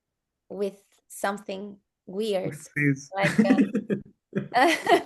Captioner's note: laughs